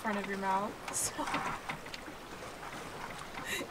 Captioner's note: laughs